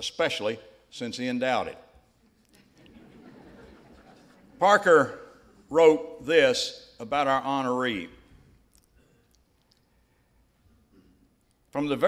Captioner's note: laughter